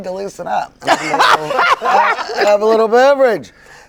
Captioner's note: all laughing